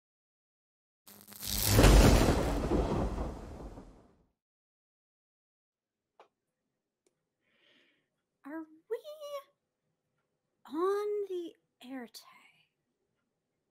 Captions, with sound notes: (thunder rumbling) - Are we "On The Éarte"?